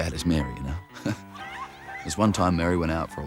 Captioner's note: laughs